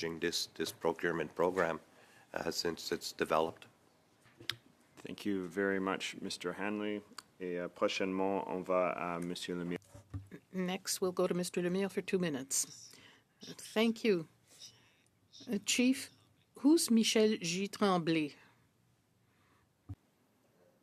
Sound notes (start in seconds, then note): 11.4 speaking French